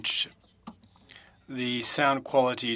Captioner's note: speaking French